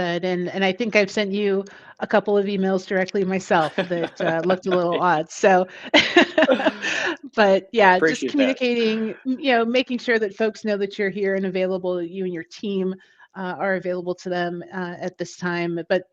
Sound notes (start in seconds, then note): 5.9 laughs